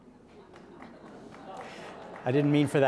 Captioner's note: audience murmuring and chuckling